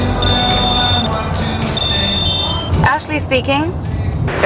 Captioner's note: phone ringing